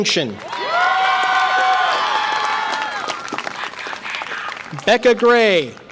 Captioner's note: audience applause and cheer